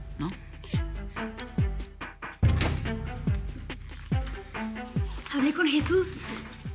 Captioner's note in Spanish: Ruido en la puerta